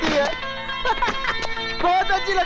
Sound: laughs

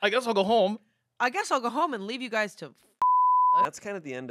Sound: beep

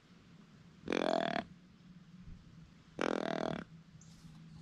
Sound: hunter calls

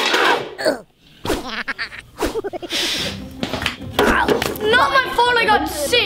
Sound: chuckles

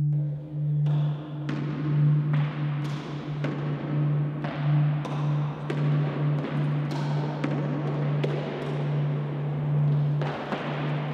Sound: tennis Ball Noises

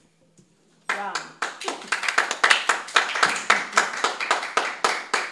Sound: applause

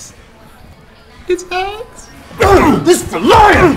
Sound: grunts

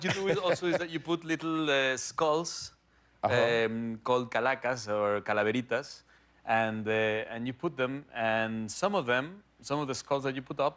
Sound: laughter

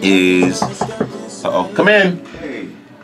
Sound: knuckles knock

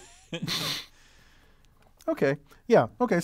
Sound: laugh

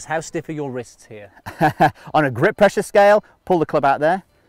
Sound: laughs

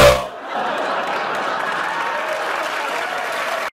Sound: laughing and applause

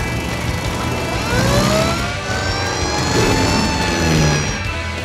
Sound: siren blaring

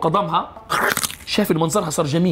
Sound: crunches

